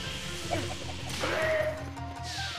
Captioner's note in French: cri de Kohga